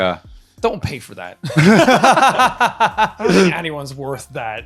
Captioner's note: laughing